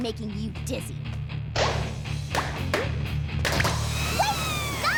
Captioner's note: pop! pop! pop! pop! pop!